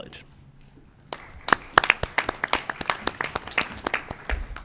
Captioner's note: applause